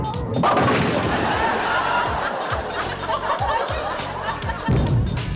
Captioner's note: audience laughs